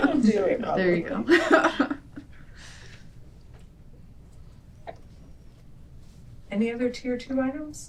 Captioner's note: laughter